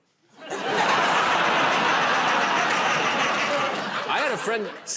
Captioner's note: laughter